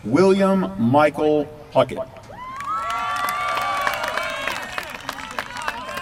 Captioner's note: applause